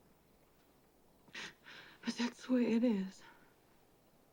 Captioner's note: sobbing